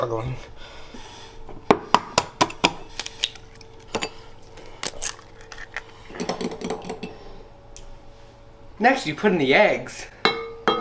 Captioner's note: ASMR egg cracking noises